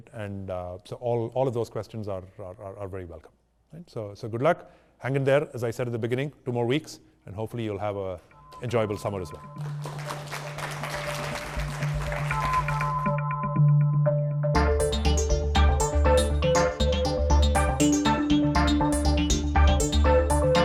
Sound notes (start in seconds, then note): 9.4 crowd applauds; 10.2 upbeat music